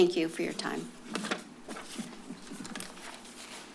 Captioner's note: paper rustles